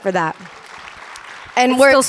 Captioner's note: audience applauding